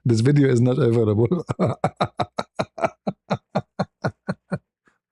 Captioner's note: ketawa